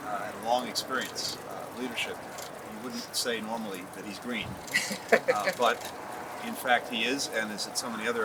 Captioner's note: laughter